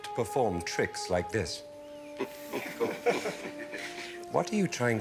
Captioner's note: laughter